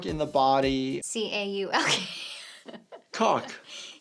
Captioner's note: laughs